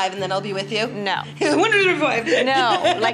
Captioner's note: laughs